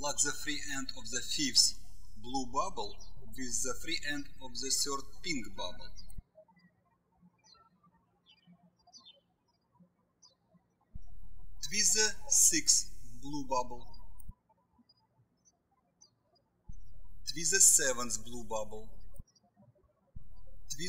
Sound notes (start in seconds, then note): 6.4 birds chirping; 16.7 birds chirping